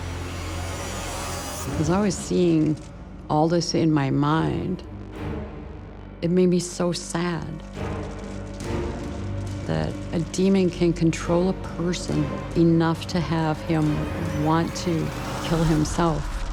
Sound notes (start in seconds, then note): none